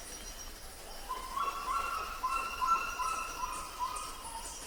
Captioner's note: bird squawking